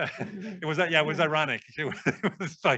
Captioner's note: laughing